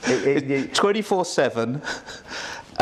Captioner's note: laughs